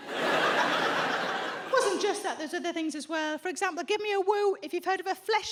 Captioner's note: audience laughs